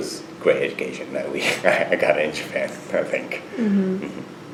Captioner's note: laughs